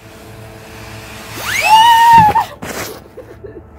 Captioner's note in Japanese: 強烈な叫び声www